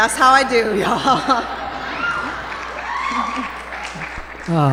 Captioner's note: laughter and cheering